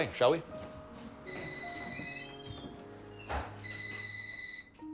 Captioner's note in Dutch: telefoon gaat